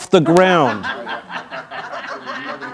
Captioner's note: crowd laughing